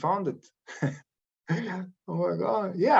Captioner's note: chuckles